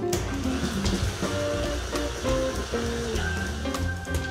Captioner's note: mixer whirring